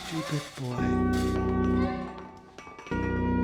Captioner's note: clanging